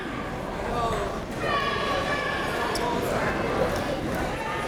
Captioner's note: crowd members talking